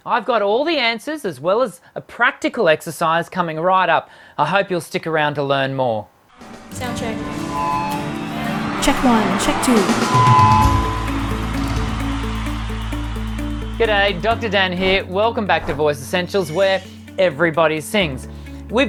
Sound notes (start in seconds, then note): 7.6 feedback whining; 10.0 crowd cheering; 10.8 upbeat, melodic music